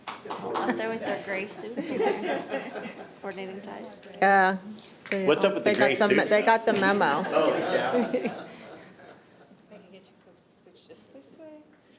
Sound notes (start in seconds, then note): 8.6 audience laughing